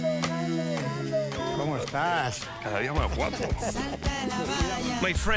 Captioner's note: both speaking Spanish